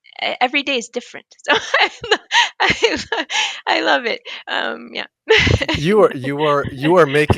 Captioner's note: laughs